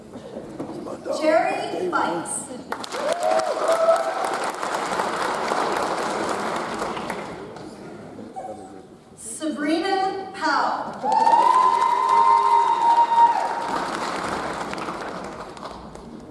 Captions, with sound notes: Jerry Fikes. (audience applauds) Sabrina Pow. (audience cheers) (audience applauds)